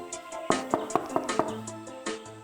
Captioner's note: knocking on the door